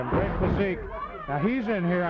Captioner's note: blows thudding